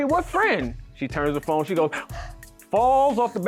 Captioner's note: gasps